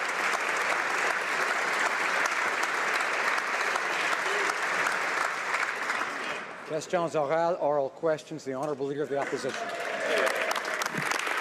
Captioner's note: applause